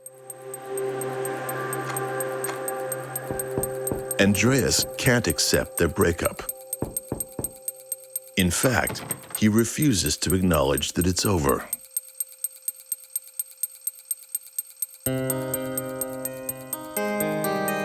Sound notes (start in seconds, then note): 6.8 knocking; 15.1 pensive music